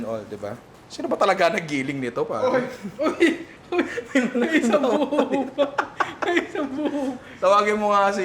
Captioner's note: laughs